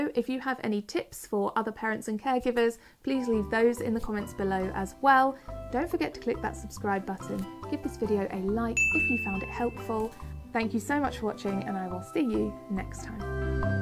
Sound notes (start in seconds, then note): 8.8 'ding' sound effect